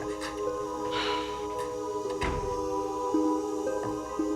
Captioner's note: Nora sighs